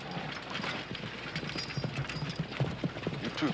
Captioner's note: horses galloping